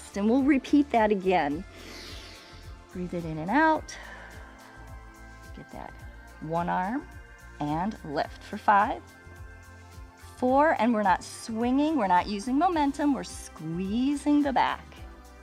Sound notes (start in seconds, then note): 1.7 inhales; 4.8 exhales